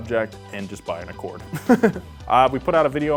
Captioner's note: chuckling